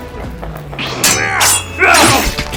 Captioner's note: occasional grunts